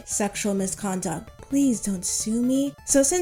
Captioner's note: whispering